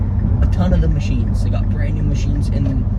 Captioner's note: turn signal clicking